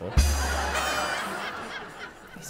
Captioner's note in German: Gelächter